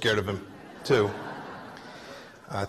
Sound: laughter

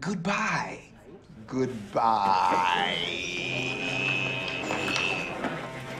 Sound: students murmuring

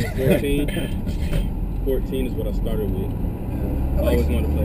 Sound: laugh

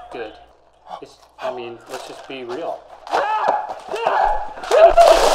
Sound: screams; water splashing

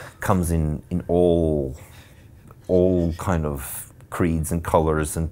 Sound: stuttering

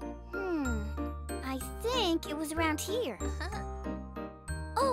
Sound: chuckles

